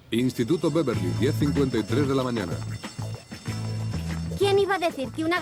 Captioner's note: school bell ringing